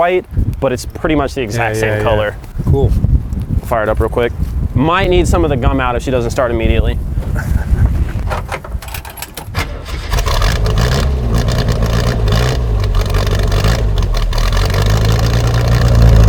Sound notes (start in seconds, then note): 8.4 keys clinking; 9.8 car engine revving